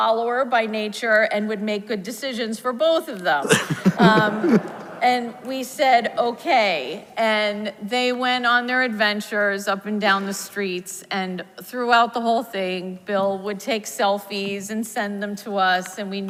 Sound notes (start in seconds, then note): 3.4 audience laughs